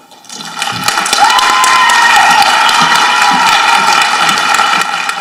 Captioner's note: people applauding and cheering